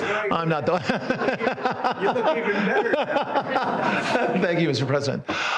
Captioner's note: laughter